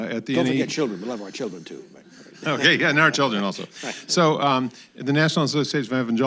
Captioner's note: laughter